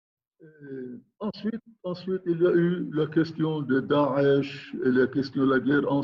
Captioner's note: speaking in foreign language